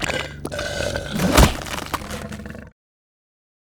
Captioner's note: demon gurgles